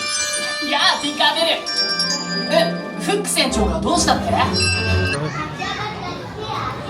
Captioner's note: bright music; Peter Pan speaking in Japanese